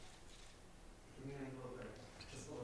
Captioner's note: camera clicks